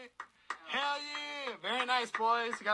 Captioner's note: person clapping